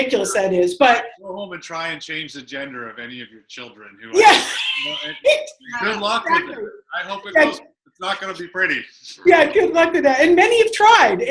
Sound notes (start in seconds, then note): 4.2 laughter